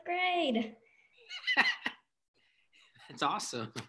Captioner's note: laughing